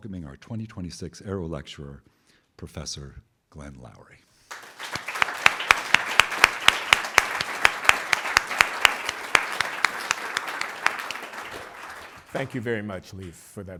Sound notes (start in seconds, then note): 4.4 applause